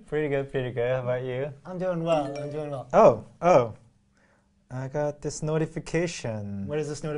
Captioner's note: phone sound